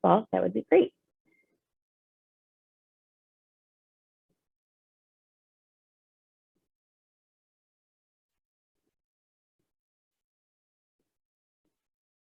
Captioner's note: silence while question is being answered